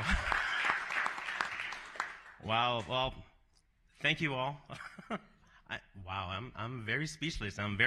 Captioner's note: applause